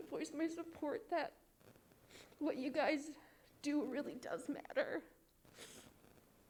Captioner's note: sobs